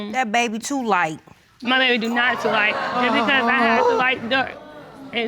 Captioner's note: audience groaning